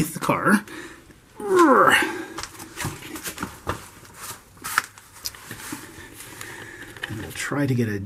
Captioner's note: fat man groans squeezing under the car